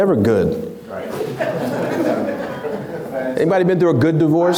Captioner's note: laughs